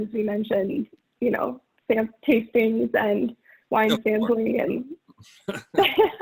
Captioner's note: laughs